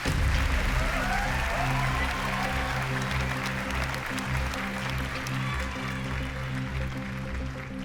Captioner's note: cheering and applause